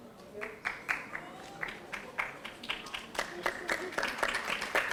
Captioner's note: audience applauding